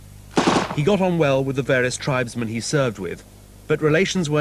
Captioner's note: gunshots